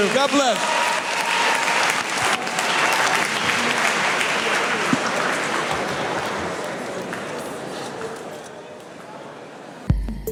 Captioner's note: applause; forest ambience with rhythmic beats